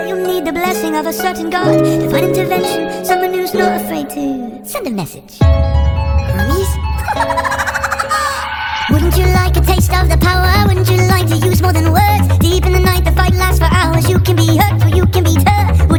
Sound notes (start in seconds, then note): 7.0 Hermes laughter ensues